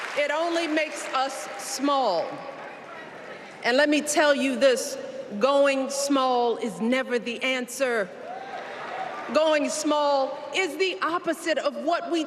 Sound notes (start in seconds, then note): 4.0 applause